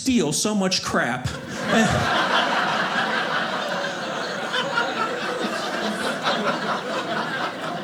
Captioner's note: audience laughing